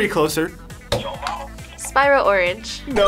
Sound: buzzer

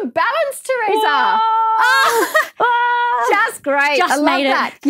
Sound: funny screams

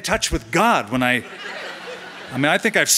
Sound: laughter

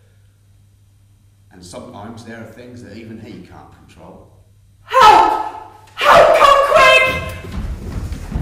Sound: shouts from offstage

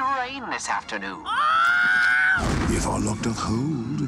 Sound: screams

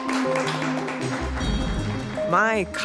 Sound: applause

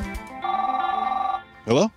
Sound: phone rings

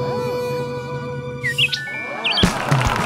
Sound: bird singing

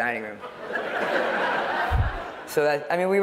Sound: laughter

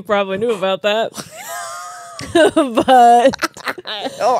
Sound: laugh

